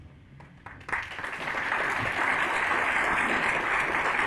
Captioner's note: audience clapping